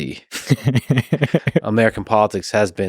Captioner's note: Saagar laughing